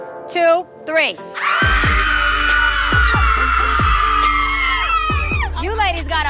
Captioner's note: upbeat music; ladies screaming